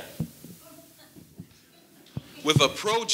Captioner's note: audience lightly laughing